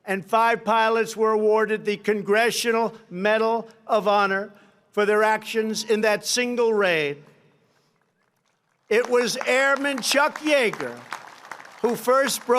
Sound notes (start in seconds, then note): 7.8 applause